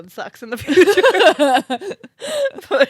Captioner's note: laugh